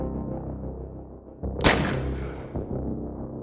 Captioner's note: gun firing